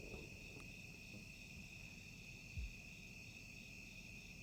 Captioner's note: crickets chirping